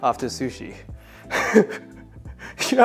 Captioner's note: laughs